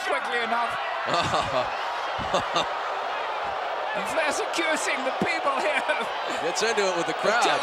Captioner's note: laugh